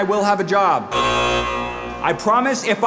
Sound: machine buzzes

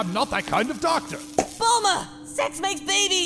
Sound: pop!

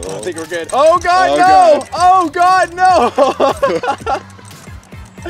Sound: laughs

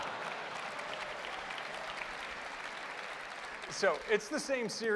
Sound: laughter and applause

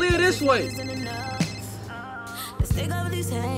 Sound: phone ringing

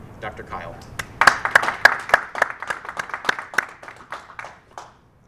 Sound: applause

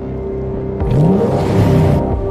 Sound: engine acceleration sounds

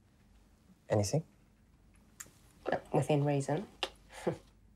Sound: none

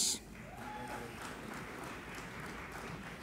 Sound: applauding

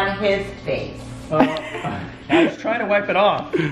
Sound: laughter

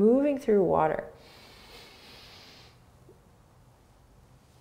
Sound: inhaling

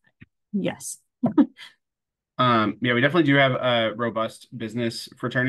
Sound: laughs

